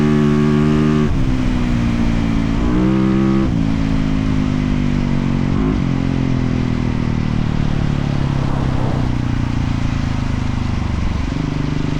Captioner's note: engine revving